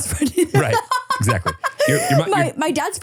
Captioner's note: laughs